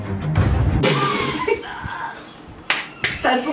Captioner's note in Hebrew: צוחק